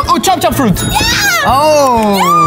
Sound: bell dings

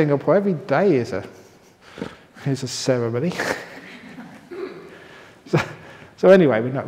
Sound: laughter

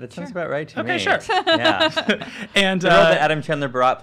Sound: laughs

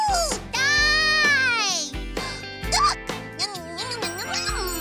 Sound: gasps

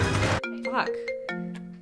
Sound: phone rings

